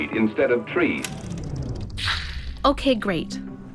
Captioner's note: film winding down